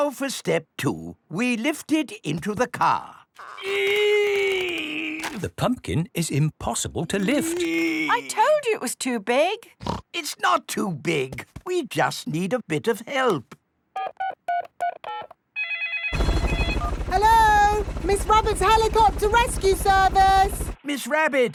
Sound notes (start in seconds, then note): 4.2 straining; 9.8 snorts; 15.5 phone ringing; 15.6 dialing